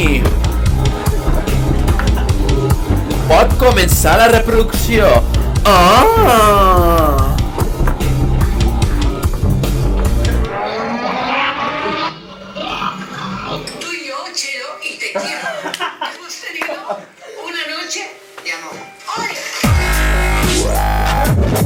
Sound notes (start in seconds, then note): 10.3 music fades; 15.0 laughs; 19.6 loud music